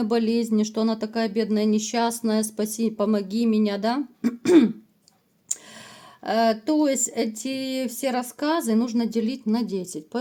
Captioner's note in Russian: откашливается